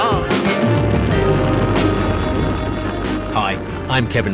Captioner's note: rocket rumbles